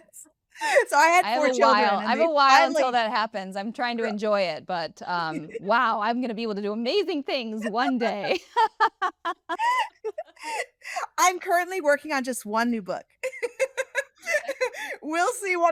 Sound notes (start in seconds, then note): 5.3 all laughing